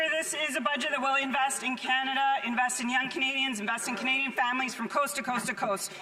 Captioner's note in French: voix de l'interprète